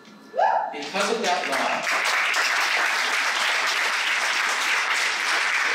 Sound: applause

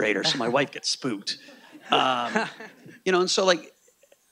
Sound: audience laughing

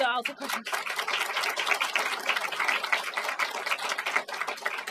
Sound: applause

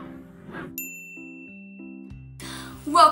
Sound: chime

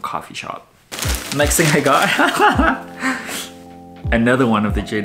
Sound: laughs

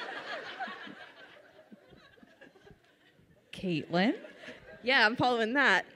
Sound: audience laughs

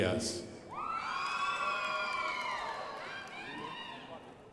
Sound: crowd applauding

